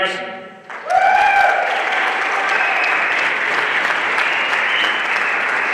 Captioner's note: everyone applauding